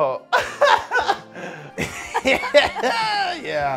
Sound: laughing

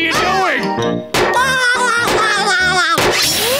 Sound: laughing

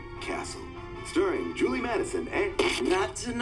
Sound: static buzzes

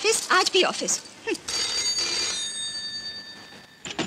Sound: phone rings

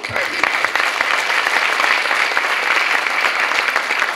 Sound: clapping

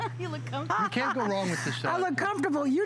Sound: laughter

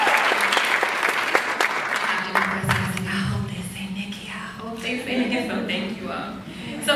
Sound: cheers; applauds; whispers

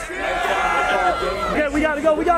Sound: crowd cheers

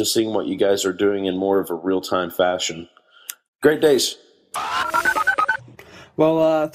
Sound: voicemail ends

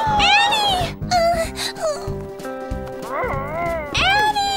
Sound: whimpers

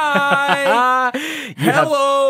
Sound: laughs

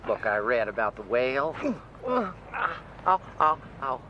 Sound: grunts

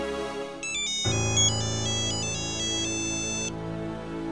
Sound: mobile phone ringing

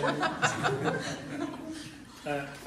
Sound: laughter

